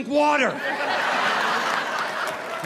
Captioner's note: audience laughing